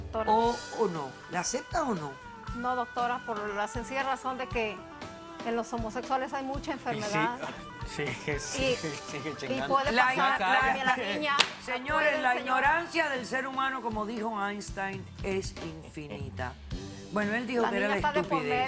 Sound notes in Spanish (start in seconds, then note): 10.0 Hablan al unísono